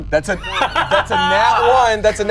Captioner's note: laughs